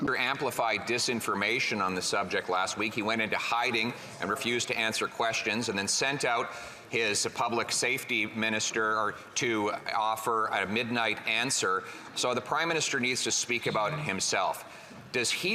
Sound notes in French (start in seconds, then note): 3.5 voix de l'interprète